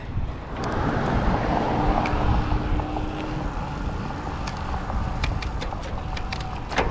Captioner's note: air whooshing; wheels whizzing